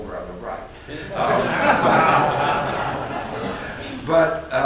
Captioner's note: audience laughs